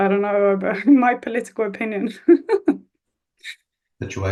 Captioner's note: laughs